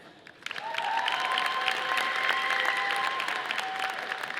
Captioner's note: audience applauding